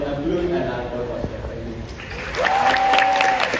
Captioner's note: rewarding crowd noises <3